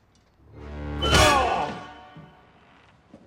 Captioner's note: sharp hit